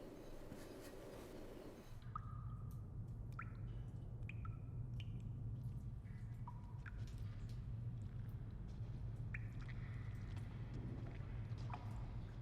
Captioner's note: dripping